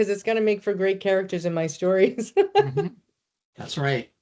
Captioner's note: laughing